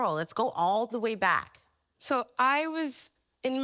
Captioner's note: none